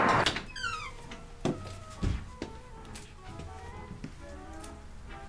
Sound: door squeaks

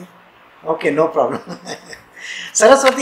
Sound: laughs

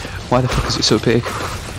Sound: heh heh

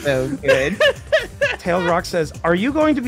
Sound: laughs

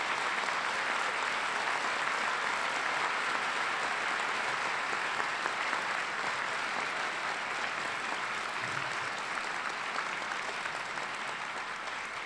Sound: applause

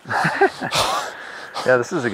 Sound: laughing

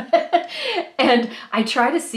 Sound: laughing

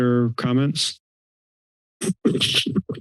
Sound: silence

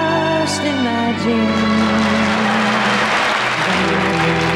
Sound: audience applause

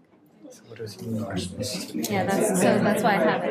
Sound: chattering

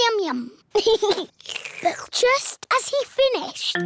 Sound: giggles; slurps

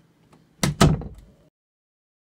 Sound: door closes

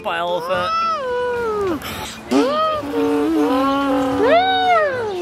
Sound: imitating an elephant

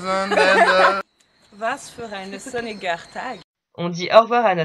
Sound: german

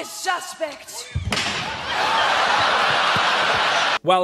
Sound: slam; laughter

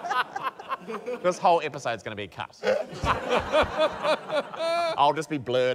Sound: laughter; laughter

